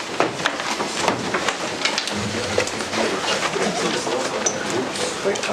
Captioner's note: indistinct conversation